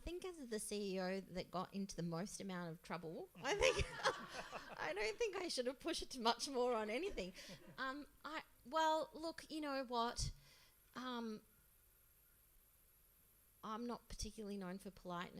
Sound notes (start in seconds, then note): 3.5 laughs